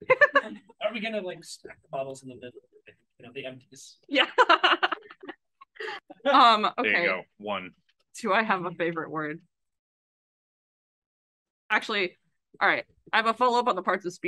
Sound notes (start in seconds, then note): 5.6 laughs